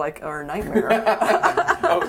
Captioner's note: laughing